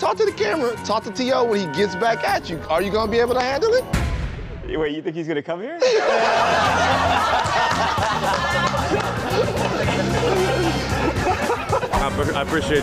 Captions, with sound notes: YOU ARE DOING ALL THIS STUFF. DON'T TALK TO THE CAMERA. TALK TO T.O. WHEN HE GETS BACK AT YOU. ARE YOU GOING TO HANDLE IT? WAIT, YOU THINK HE IS GOING TO COME HERE? [LAUGHTER] I APPRECIATE YOUR TIME, MAN. THANK YOU SO MUCH.